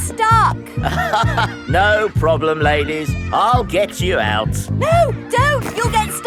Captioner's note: chuckles